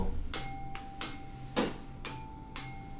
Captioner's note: dinging